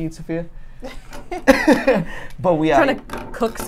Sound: laughs

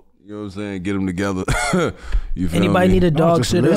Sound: chuckles

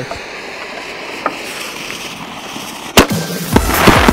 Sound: fuse sizzling; fireworks exploding

